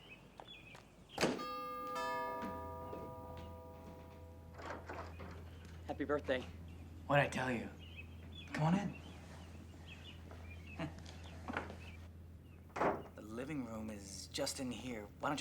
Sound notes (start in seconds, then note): 1.2 door thudding; 1.3 door bell ringing